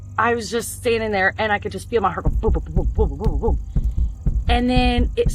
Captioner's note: thumps